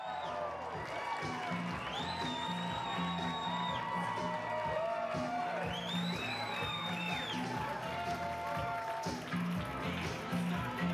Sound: cheers and Applause

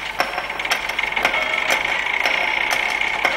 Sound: chiming and ticking

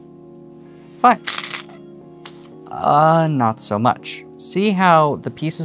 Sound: new song begins; stones rattling

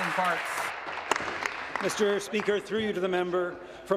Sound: applause

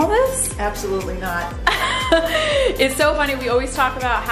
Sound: laughing

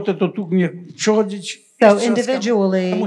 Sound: foreign language

